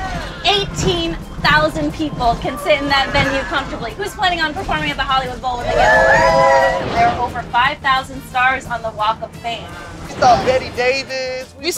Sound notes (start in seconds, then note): 5.5 all cheer